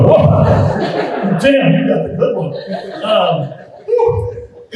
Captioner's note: group laughing